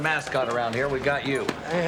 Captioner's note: laughs